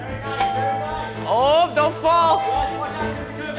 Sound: ding

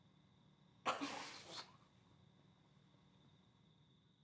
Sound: laughter

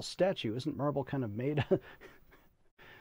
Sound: chuckling

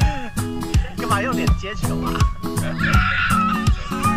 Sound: laughs

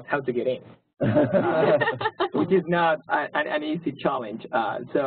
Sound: laugh

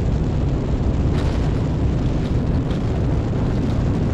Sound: rockets ignite

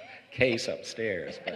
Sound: laughter

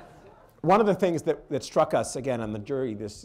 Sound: laughter

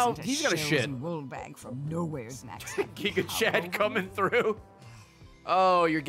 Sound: laughs

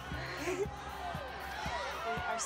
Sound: synchronized breath

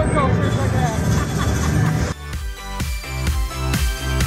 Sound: vacationer laughs; upbeat music

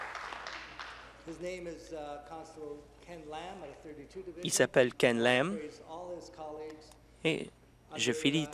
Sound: some Applause

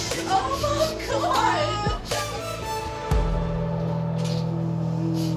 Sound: sobbing

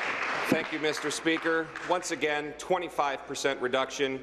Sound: applause

